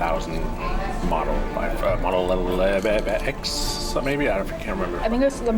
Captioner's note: nonsense noises